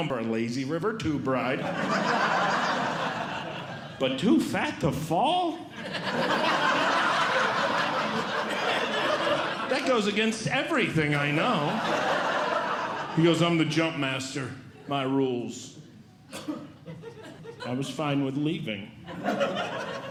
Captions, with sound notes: a lazy river tube ride. [Audience Laughing] But too fat to fall? [Audience Laughing] That goes against everything I know. [Audience Laughing] He goes, “I'm the jump master. “My rules.” I was fine with leaving. [Audience Laughing]